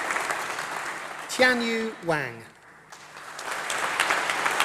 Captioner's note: applause